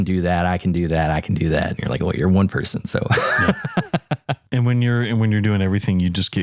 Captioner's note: laugh